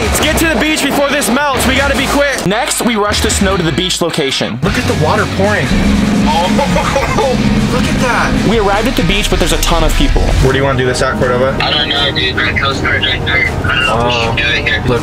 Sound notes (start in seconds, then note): 6.2 man laughs